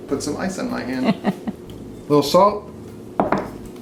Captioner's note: woman laughing